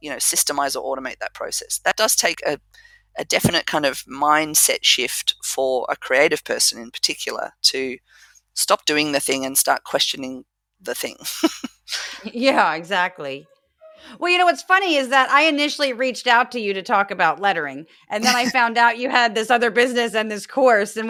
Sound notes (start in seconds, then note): 11.2 laugh